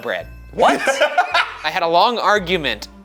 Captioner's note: laughing